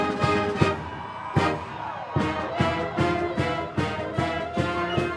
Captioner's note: audience cheering